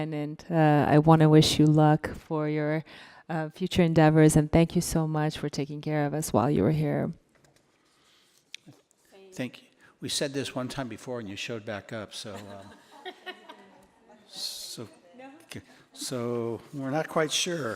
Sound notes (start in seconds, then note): 12.2 laughing